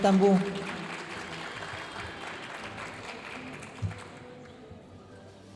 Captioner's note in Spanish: hablando en inglés; aplausos de la audiencia